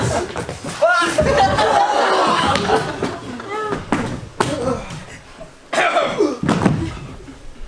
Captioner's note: a multitude of death noises